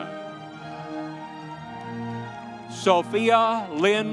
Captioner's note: audience cheering